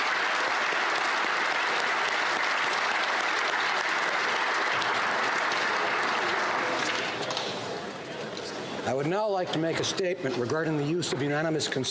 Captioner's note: applause